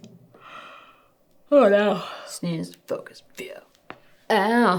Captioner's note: yawning